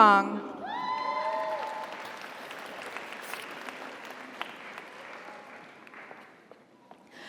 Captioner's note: audience cheers; audience applauds